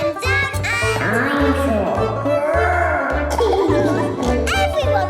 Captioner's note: laughing